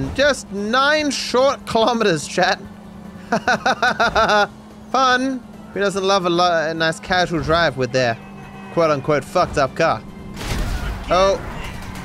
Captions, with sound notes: Just nine short kilometres chat! [Laughs in pain] Fun. Who doesn't love a nice casual drive with their, “fu*ked up car”.